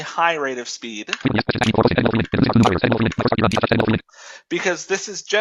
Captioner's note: screen reader speaks quickly